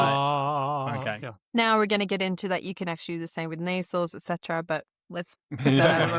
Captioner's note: laughter